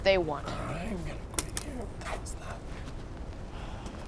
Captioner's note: muttering